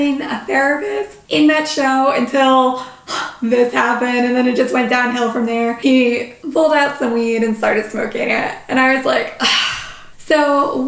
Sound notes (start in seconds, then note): 9.4 sigh